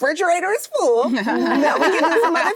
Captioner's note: actresses laughing